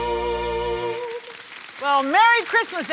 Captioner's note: audience applauds